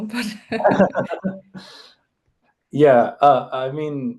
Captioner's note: both laugh